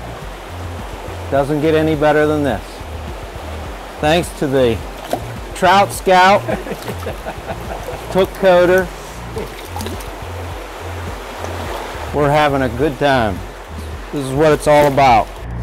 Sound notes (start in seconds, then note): 6.3 chuckling